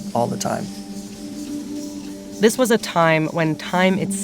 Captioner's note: soundbite of water rushing